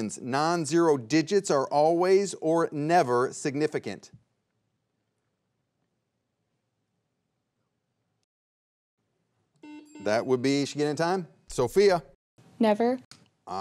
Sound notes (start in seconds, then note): 9.4 bell dings; 9.6 buzzer beeps twice